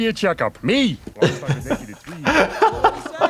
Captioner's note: laughing